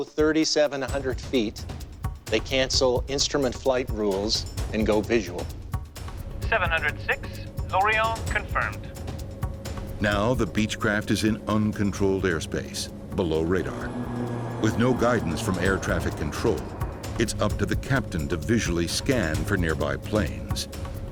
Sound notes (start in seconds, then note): 10.1 voiceover